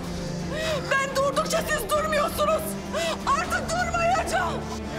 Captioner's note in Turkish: none